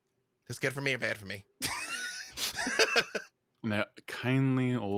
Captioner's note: laughs